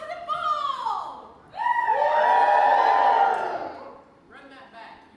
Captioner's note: audience cheers